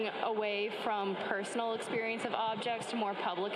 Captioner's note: crowds chattering